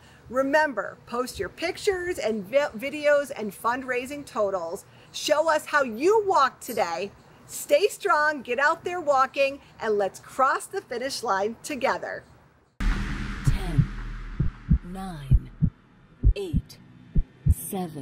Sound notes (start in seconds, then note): 12.8 intense thumping